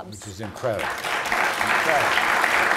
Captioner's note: applause